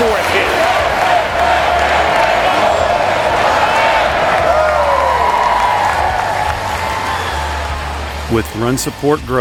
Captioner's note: cheering